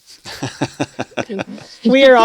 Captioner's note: laughter